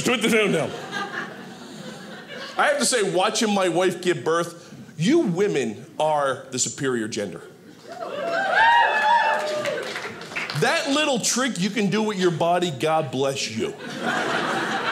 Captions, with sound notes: "put the phone down." I have to say, watching my wife give birth, you women are the superior gender. (audience cheering) That little trick you can do with your body, God bless you. (audience laughing)